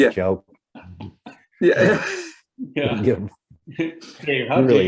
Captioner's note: laughter